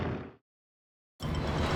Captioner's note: airplane engines